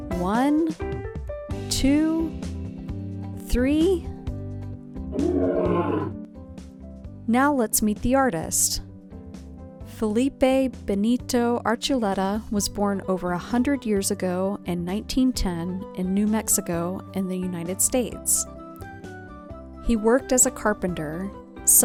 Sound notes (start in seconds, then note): 5.1 roaring